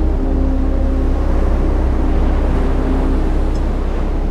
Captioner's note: waves crashing